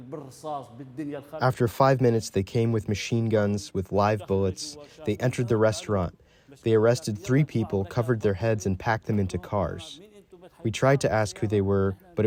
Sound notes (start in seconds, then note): 1.8 through translator